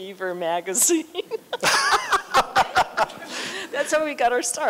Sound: laughter

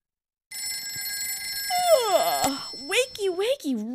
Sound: alarm bell

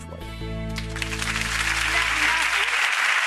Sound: applauding

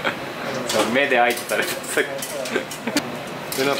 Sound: laughs

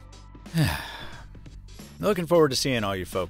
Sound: heavy sigh

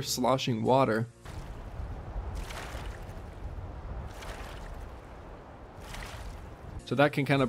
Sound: sloshing waters sound as if you are swimming in a pool

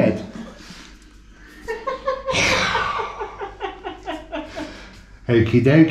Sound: sigh

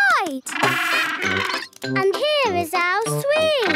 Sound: honking

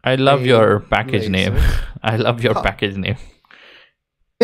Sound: chuckles

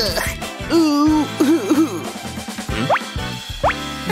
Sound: moaning

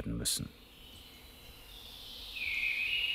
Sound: birds chirping

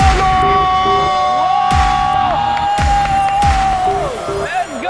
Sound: shouting

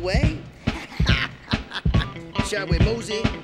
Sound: laughing

